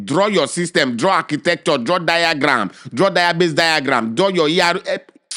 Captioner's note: lip smack